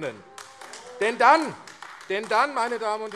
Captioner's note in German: Beifall AfD - Zurufe: Oh!